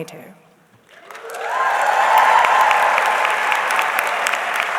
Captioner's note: audience cheering